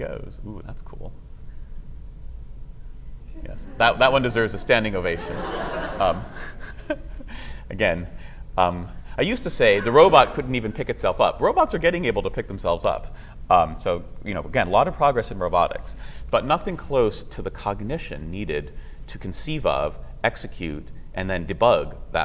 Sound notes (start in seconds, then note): 5.4 laughter